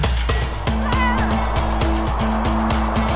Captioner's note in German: Wind heult